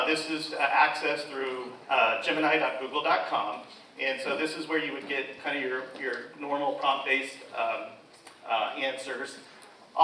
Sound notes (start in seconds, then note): none